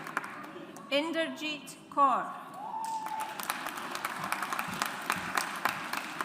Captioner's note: audience applauds